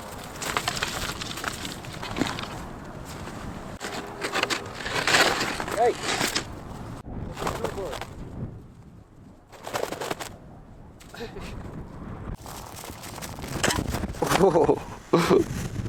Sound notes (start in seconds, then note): 0.0 scratching; 7.4 flapping; 13.4 scratching